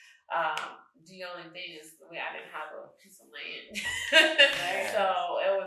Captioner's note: laughs